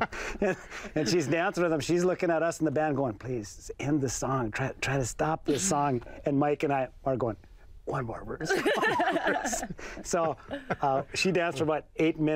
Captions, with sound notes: She's looking at us in the band, going, "Please end this song. "Try to stop this song." And Mike and I are going, "One more." [all laugh] So she danced for about 8 minutes with this guy,